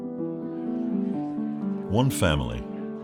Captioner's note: people chatter